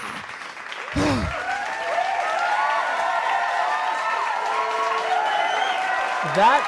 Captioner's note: applause